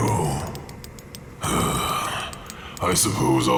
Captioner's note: sighs